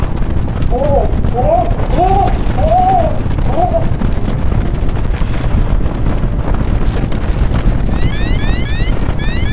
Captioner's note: earthquake